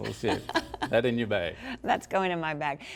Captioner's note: laughs